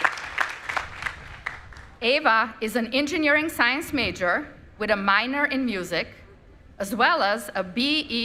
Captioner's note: applause